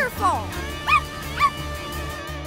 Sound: barking

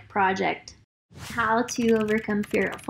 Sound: keyboard clicking

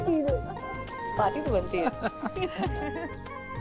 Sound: giggling

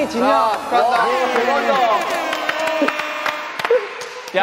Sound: A round of applause

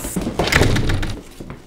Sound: door closes

